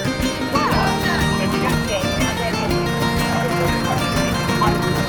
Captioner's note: background chatter; engine noise